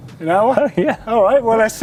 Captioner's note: laughs